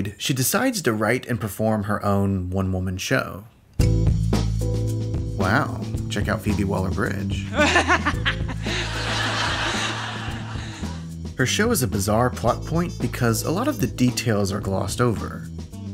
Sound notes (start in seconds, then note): 7.5 exaggerated laugh; 7.5 laughter